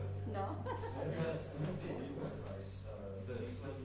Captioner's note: laughing